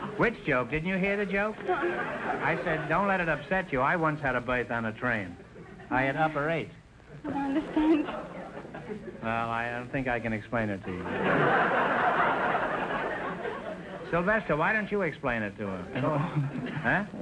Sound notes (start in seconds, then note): 10.8 audience laughter; 15.9 laughing